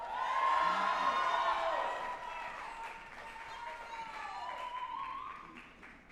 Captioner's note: group applauding and cheering